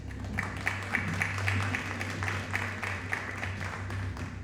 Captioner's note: audience applauding